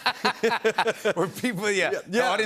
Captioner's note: laughter